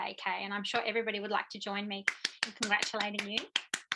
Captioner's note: clapping